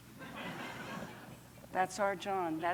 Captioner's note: laughter